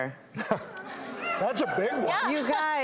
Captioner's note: audience laughs